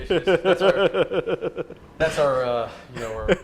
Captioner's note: laughter